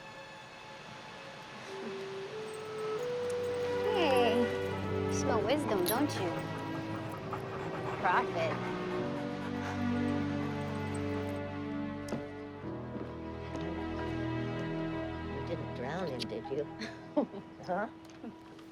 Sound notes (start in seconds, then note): 1.5 chuckles; 8.7 laughs; 16.7 laughing